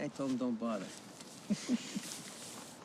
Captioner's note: randleman chuckling